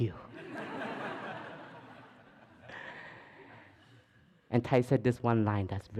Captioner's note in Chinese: 笑聲